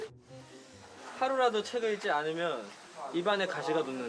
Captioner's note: confident; reciting